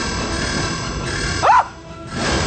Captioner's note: screams